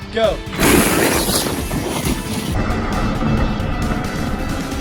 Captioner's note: RC car whirring